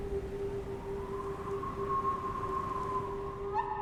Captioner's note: whistling wind